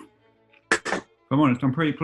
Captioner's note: can clatters